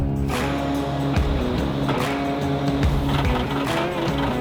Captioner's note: tractor whirring